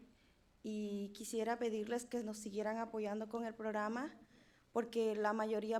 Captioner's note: speaking in foreign language